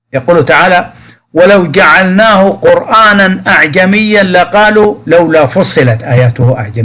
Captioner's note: in our language